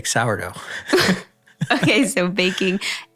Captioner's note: both laughing